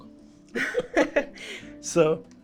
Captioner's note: chuckle